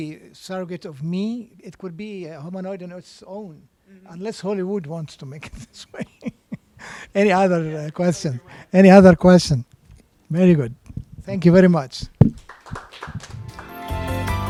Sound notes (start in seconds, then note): 5.4 laughter; 12.3 applause